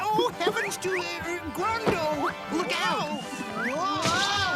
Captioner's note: all whoa